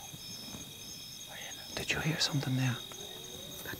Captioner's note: whispers